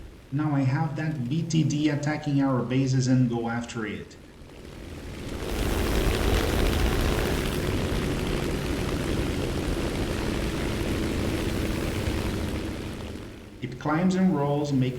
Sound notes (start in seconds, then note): 5.0 aircraft Engines ,Gunfire, Flying Sounds